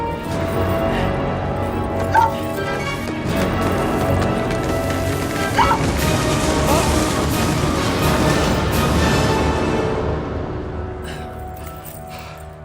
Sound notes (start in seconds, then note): 2.9 rubble falling